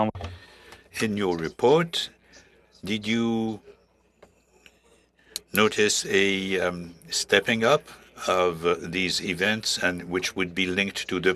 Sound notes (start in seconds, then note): 2.5 speaking French